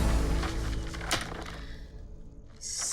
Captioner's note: papers rustling